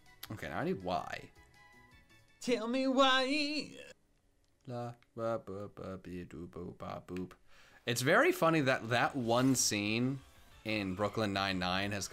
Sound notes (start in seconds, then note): 4.6 hums